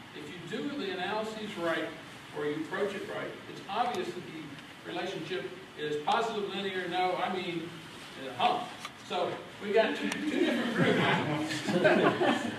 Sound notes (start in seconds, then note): 11.4 laughter